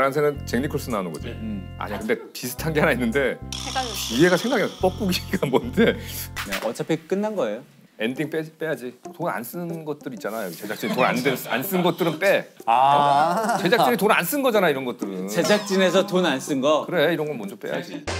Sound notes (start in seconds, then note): 12.7 exclaiming